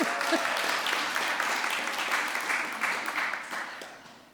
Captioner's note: laughing; applause